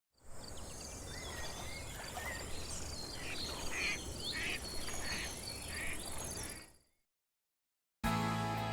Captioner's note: bird calls